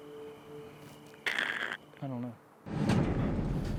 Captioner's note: growls